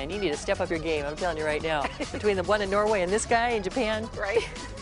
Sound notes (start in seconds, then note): 4.3 laughter